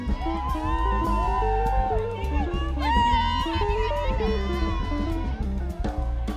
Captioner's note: students cheering and laughing